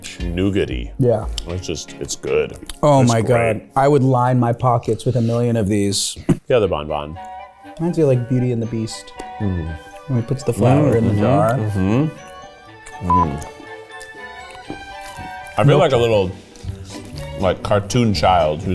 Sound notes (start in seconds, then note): 7.2 gentle music; 13.0 beep; 13.8 playful music